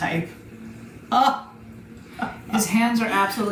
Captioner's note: chuckles